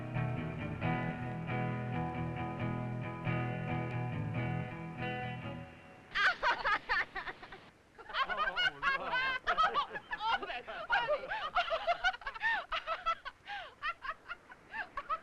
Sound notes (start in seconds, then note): 5.8 group laughing; 11.0 Bunny laughing